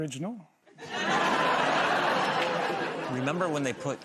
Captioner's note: laughter